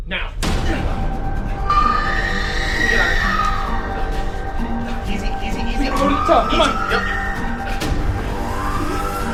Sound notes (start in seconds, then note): 1.1 frenzied music; 1.7 woman screams